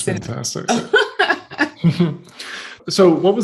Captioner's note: laughing